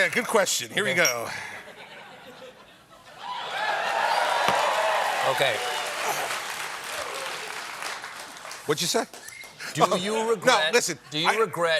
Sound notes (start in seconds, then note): 3.2 cheers and applause